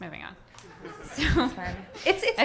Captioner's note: audience laughing